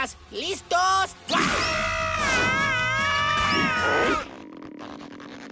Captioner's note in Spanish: Gritos.mp3